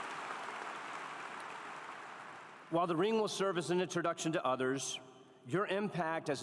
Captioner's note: applause